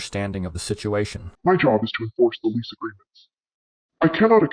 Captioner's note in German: verzerrt